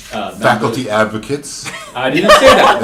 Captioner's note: laughter